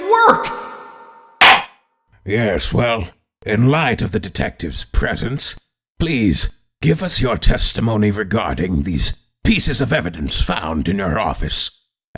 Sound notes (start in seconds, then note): 1.4 gavel slams!